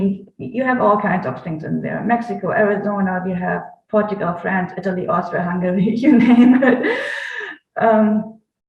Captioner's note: laughs